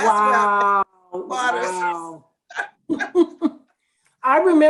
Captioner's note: women laugh